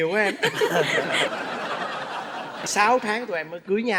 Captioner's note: laughing